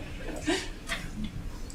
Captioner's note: laughing